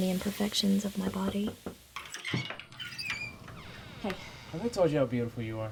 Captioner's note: door knocking